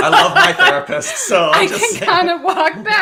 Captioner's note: laughing